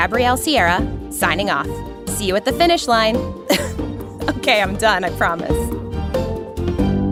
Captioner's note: laughs